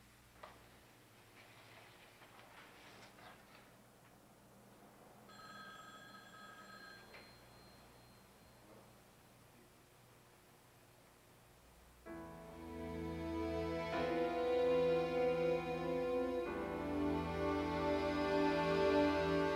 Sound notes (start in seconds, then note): 5.3 phone rings; 12.1 somber music